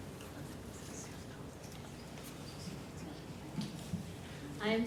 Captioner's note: audience chattering